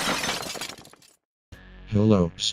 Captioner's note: crash!